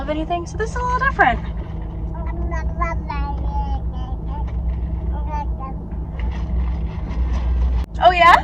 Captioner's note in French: sons d'un tout-petit